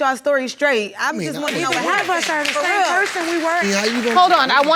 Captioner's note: audience applauding